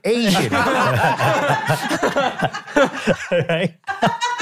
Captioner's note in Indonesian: hahahahahaha